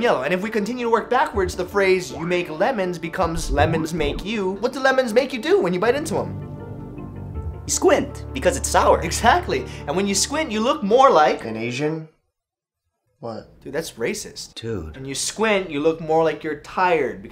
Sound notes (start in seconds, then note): 12.0 uncomfortable silence